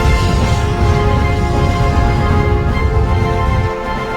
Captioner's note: meteorites whoosh